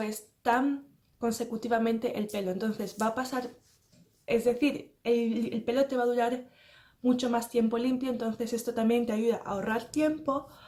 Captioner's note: keep saying the same but in spanish